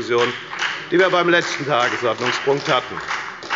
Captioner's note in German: Beifall bei der FDP und bei Abgeordneten der SPD